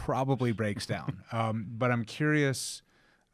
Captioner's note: chuckles